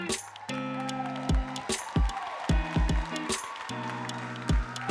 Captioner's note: audience cheering